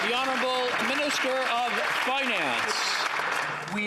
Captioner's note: some Applause